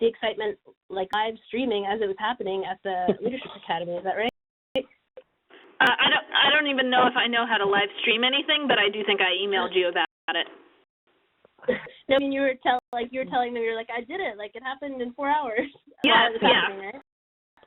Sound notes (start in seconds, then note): 11.5 laughs